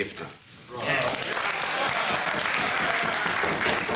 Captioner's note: applause